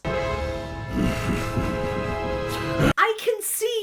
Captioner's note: orchestra stabs; Doom laughing ominously